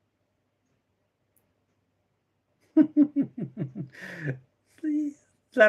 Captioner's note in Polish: śmiech